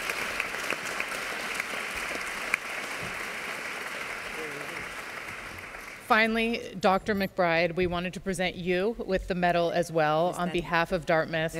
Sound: applause

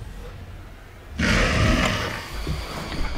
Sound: loud growl

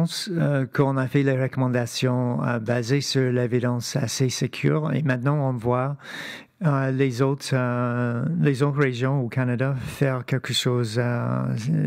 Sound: speaking French

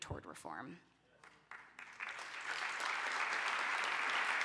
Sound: applause

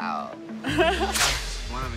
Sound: laughs

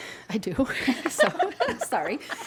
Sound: laughing

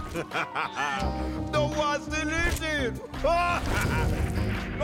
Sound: laughing; laughing

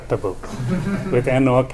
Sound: laughs

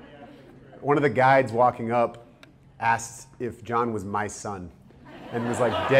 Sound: audience laughter

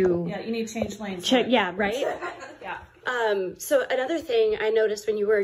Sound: laughing, trying to look

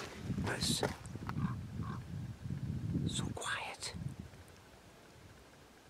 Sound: whispers

